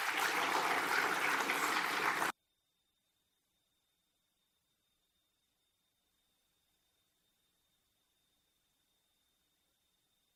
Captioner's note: applause